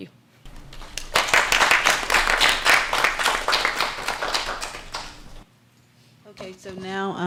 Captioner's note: applause